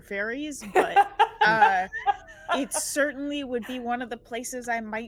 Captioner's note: laughing